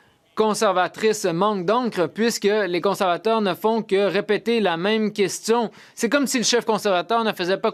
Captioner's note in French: voix de l'interprète